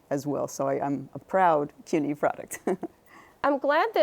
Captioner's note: chuckles